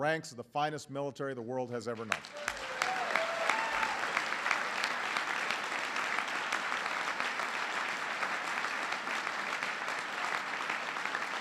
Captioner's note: applause